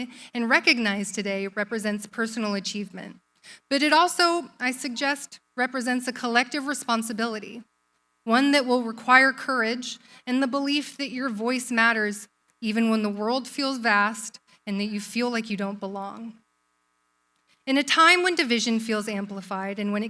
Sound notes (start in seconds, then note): none